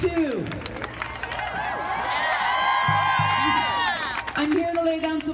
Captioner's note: crowd cheering and applauding